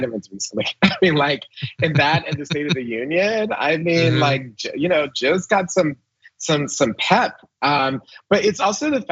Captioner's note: laugh